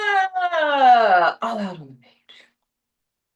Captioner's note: said in relief